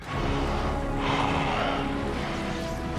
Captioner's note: in high-pitched voice